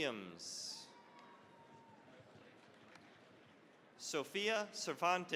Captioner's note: cheering, applause